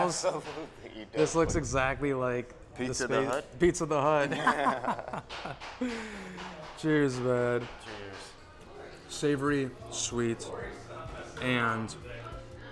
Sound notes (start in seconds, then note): 7.2 both laugh